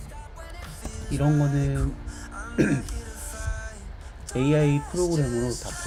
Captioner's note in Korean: 목을 가다듬음